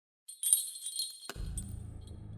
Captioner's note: bells